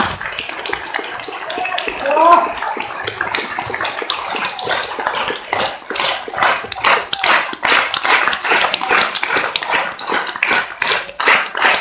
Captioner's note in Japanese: 手拍子